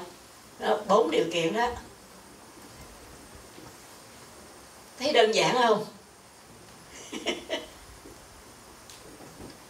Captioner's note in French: rires